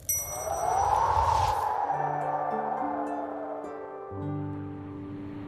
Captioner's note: wind